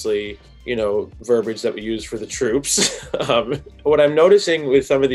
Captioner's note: chuckles